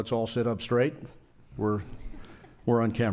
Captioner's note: laughing